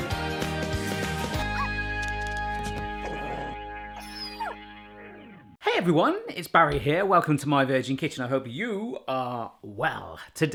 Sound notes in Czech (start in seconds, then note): 2.9 psí zakňučení